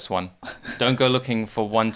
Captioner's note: chuckles